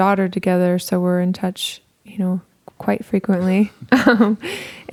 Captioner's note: laughs